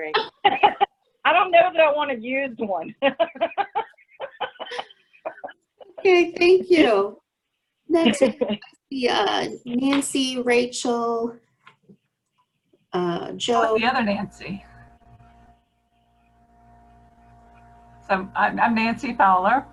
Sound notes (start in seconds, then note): 6.4 laughter